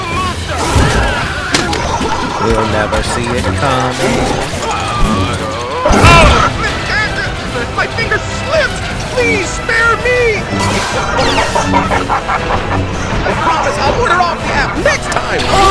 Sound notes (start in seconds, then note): 10.3 Grievous's maniacal laughter echoes everywhere